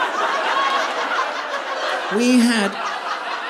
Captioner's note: audience laughing